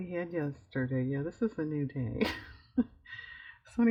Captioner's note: laughs